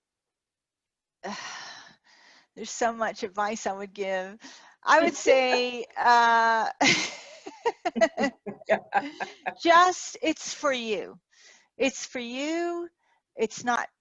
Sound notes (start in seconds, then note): 1.4 sighs; 6.9 laughing